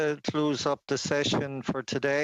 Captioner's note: speaking Indigenous Language